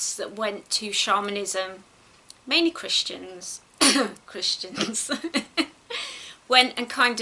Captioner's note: fake coughs and laughs